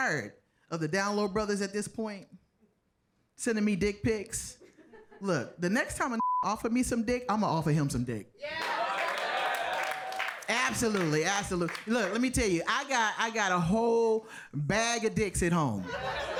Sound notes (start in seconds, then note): 6.2 beep; 8.5 audience applauding